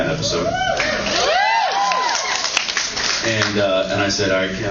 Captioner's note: cheers